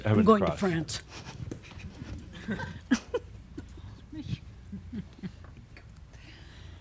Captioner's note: she softly chuckles